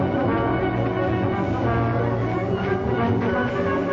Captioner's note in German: Gebüschrauschen